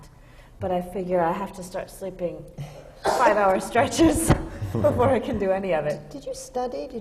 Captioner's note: laughs